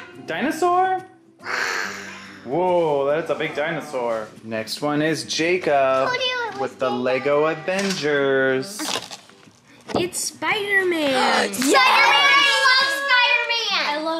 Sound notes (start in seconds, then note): 1.7 roars; 11.6 children cheering